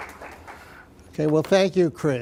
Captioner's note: applause